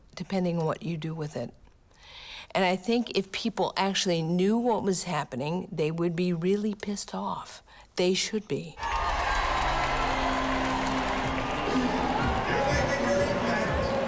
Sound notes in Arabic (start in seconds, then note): 8.8 هتاف; 11.3 موسيقى حية